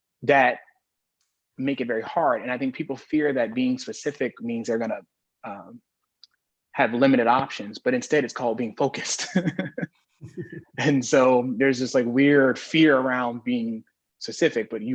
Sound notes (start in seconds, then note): 9.2 chuckles